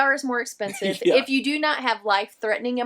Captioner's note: laughing